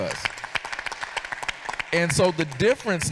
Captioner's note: audience applauding